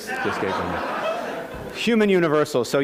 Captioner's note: laughter